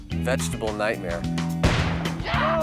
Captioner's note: explosive booms